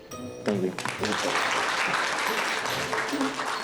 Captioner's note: applause